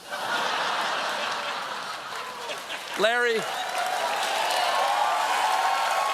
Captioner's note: laughter; cheers